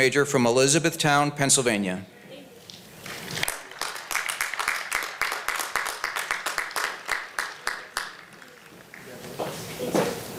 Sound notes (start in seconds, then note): 3.0 applause